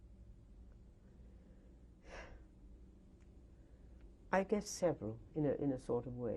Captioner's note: sighs